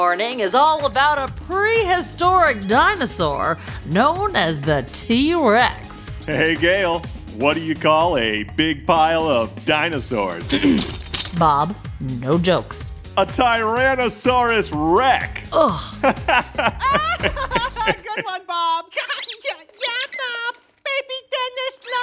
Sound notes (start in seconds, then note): 0.0 soundbite of tv turning on; 10.5 clears throat; 16.0 laughing loudly from off stage; 19.0 toddler laugh